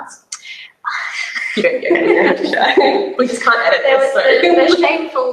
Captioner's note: both laugh